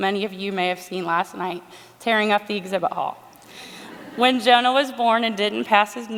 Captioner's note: laughter